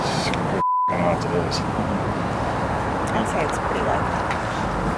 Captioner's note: beep